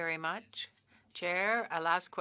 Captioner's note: speaking French